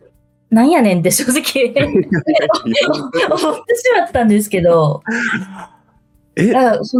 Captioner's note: laughs